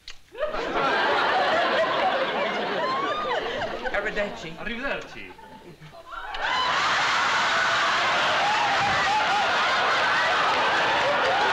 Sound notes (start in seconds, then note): 0.3 laughter; 3.7 speaking italian; 5.0 laughter